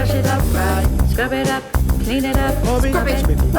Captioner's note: none